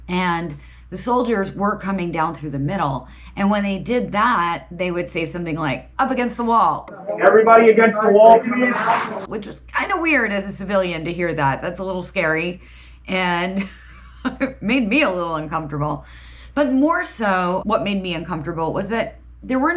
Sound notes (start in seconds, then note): 13.4 chuckles